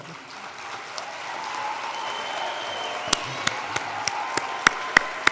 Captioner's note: applause